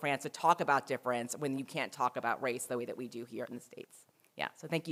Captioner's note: none